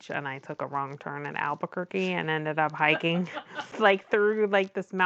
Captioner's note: laughs